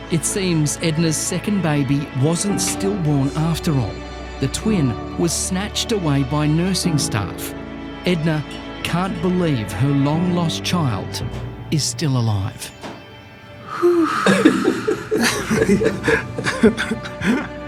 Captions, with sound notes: It seems Edna's second baby wasn't stillborn after all. The twin was snatched away by nursing staff. Edna can't believe her long-lost child is still alive. (exhaling with strong emotion) (men laughing)